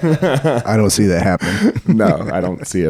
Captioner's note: laughing